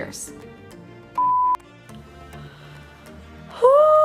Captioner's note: beep